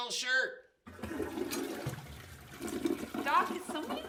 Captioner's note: toilet flushes